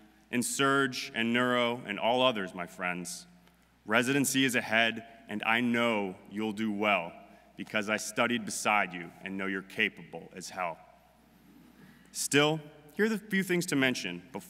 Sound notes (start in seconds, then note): none